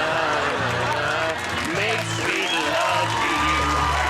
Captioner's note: audience applauds